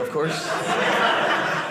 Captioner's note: audience laughing